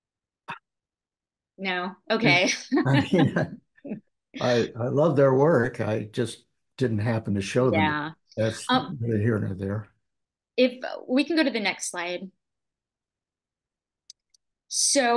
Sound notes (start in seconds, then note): 2.2 laugh